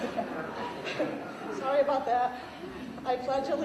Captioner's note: laughter